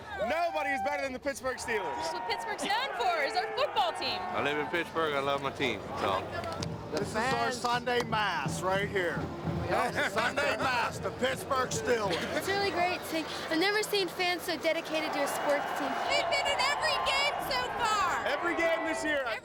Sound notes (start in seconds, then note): 15.0 people cheering